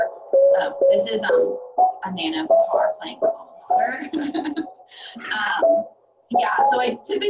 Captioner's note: laughing